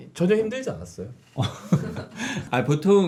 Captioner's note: laughing